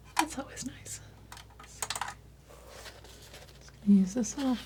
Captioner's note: scratching